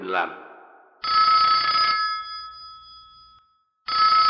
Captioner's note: phone ringing